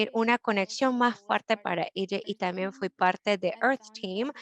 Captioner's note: Spanish